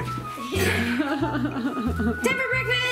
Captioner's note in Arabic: ضحك